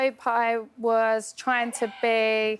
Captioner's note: crowd member shouts